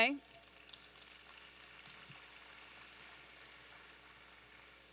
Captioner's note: audience applauding